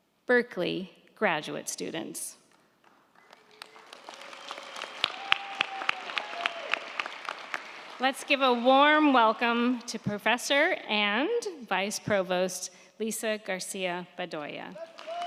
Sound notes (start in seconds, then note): 2.5 crowd clapping; 3.1 crowd cheering